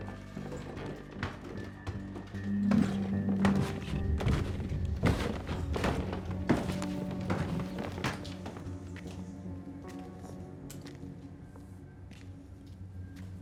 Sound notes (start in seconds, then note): 4.1 footsteps thumping; 9.6 intense music continues